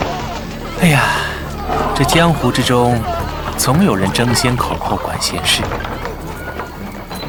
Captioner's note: sigh